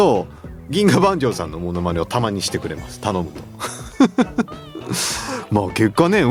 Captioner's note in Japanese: 笑い